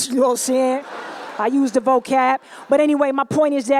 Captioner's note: laughter